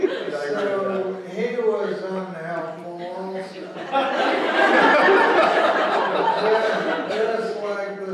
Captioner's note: laughter